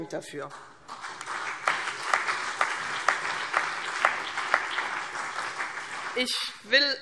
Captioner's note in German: Beifall CDU und BÜNDNIS 90/DIE GRÜNEN